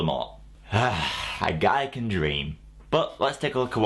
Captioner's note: sigh